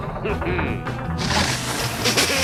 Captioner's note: chuckles; water rushing, laughter